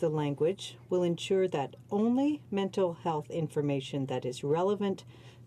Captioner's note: speaking French